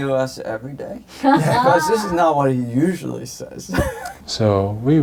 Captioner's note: chuckle